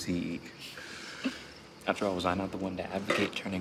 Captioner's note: laughs